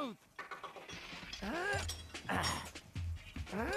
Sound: Stone Cold grunting

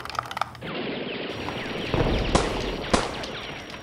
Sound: shooting noises

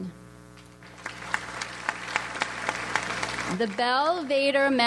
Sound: audience applauds

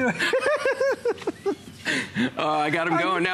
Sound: laughter

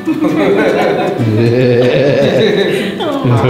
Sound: family laughs

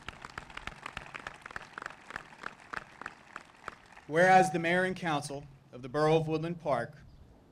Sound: applause

